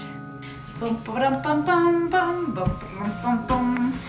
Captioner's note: hums